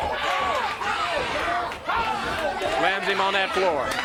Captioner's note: crowd chatter